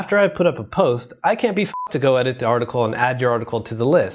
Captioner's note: beep